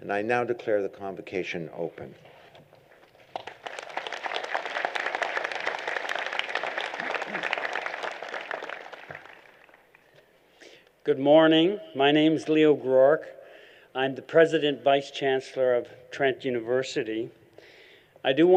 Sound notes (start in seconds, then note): 3.2 applause